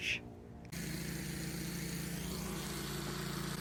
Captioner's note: sawmill noise